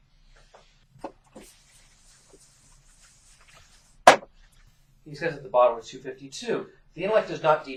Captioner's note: erasing chalkboard sounds